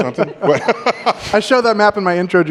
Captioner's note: laughter